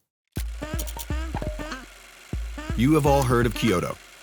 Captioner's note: film reel whirring